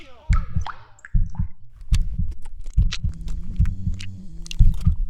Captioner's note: quiet footsteps